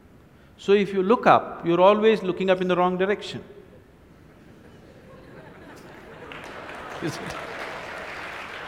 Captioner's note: laughs; applause